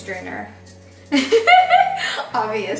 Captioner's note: laughs softly